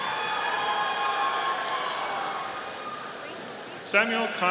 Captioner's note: audience cheering